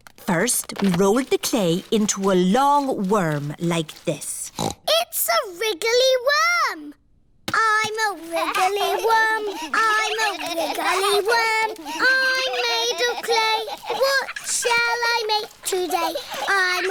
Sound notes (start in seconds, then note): 4.2 snorts; 11.0 all laughing